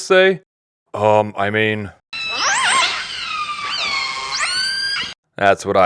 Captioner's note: whale noises